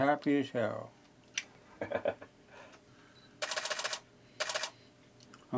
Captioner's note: still camera clicking